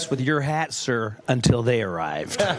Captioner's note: laughter